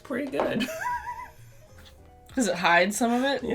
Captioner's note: laughter